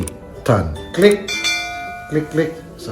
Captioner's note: bell